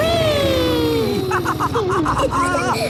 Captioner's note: laughs